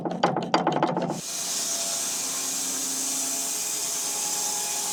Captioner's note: lever clanking; saw whirring